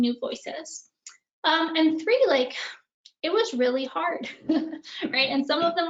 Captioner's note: laughing